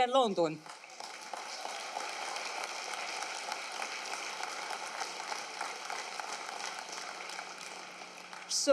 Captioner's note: applause